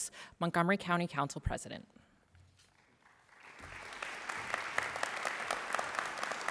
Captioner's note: applause